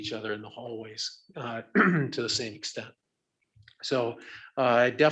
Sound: clears throat

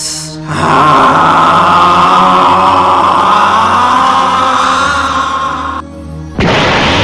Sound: screaming

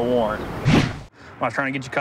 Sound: whoosh

